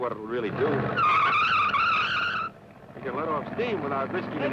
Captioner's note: tires squealing